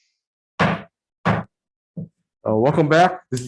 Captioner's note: gavel bangs